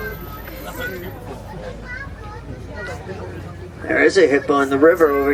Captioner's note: crowd chattering indistinctly